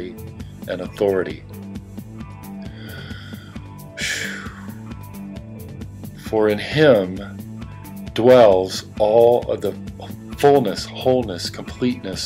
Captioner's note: sigh